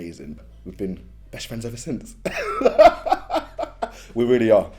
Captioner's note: laughs